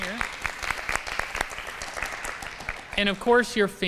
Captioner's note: applause